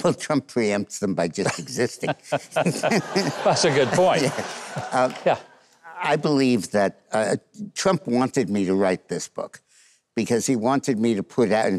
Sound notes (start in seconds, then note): 4.5 audience laughs